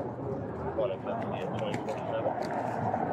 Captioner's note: radio chatter